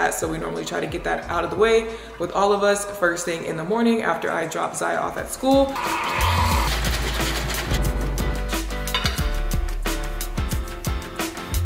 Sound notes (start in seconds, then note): 5.8 coffee pouring; 6.4 bottle shaking; 8.0 upbeat music